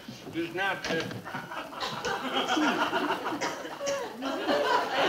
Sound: audience laughing

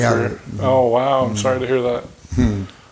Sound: chuckling

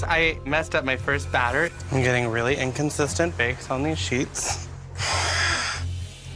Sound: exhales

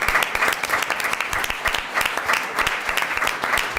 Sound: applause

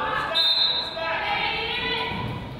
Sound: whistle blows; whistle drowns out coach

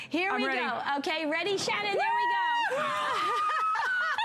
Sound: laughter

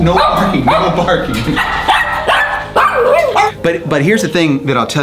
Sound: Pugsly barks repeatedly

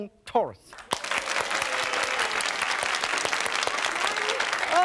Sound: audience applause

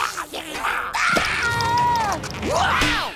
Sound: shrieking; grunting

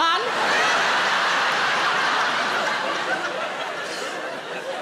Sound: audience laughing

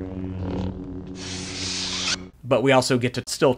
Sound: saber retracts

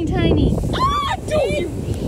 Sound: yelling

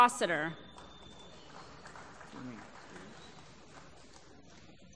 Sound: applause

